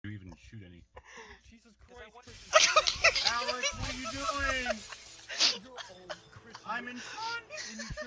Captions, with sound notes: I didn't even shoot any... JESUS CHRIST KRISITAN! *laughter* *laughter* ALEX WHAT ARE YOU DOING! *laughter* ohhh, Kristian... IM IN FRONT!